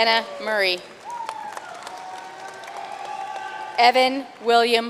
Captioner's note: audience cheering and applauding